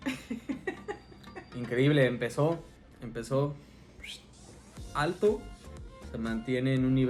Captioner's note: whistle